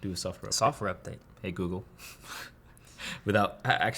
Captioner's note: laughs